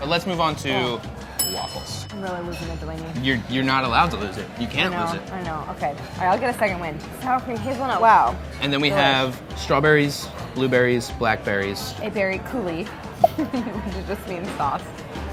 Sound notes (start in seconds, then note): 1.6 bell dinging; 13.2 bubbles popping; 13.2 laughs